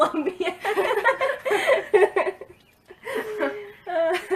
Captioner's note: laughs